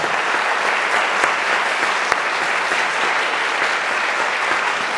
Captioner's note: audience applauding